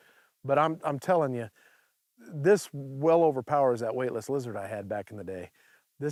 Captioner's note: none